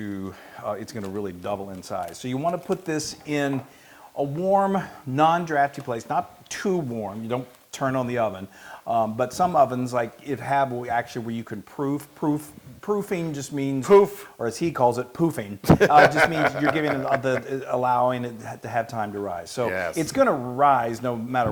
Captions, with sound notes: really double in size, so you want to put this in a warm, non-drafty place. Not too warm, you don't turn on the oven, but some ovens, it has actually where you can proof, proofing just means- >> Poof. >> Or as he calls it, poofing. >> [LAUGH] >> It just means that you're allowing it to have time to rise. >> Yes. >> So, it's going to rise no matter what,